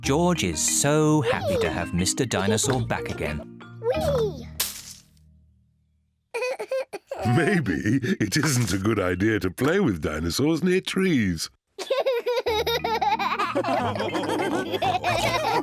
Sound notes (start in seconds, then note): 6.4 cries; 11.8 all laughing